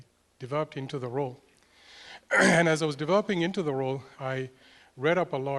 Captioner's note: cough